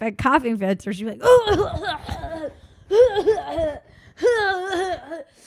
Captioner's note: coughing